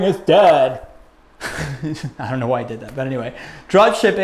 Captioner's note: chuckles